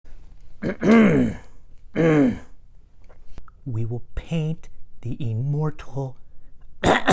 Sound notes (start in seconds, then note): 0.6 clears throat